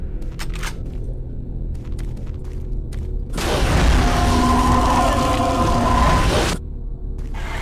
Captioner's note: gunshots